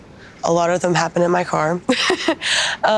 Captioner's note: laughs